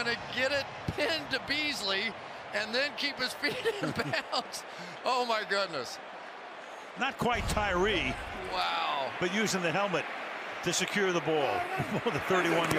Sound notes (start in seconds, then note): 3.5 laughs